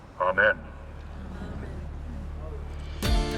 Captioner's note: crowd; upbeat instrumental music